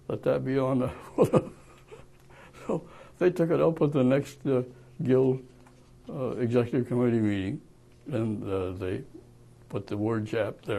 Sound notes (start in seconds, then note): 1.0 laughs